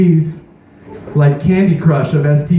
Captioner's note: audience stirring loudly